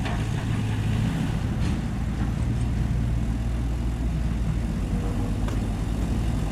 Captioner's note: heavy engine